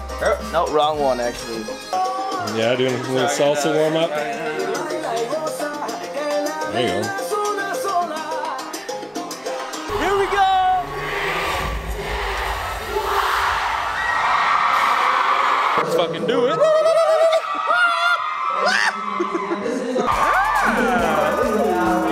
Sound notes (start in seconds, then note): 11.4 crowd; 14.0 cheering